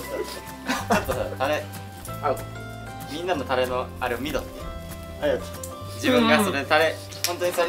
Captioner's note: laughs